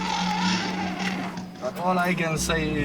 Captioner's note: trumpeting